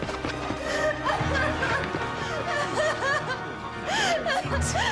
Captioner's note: francine crying